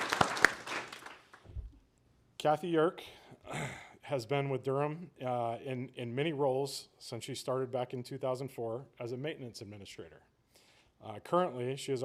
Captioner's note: applause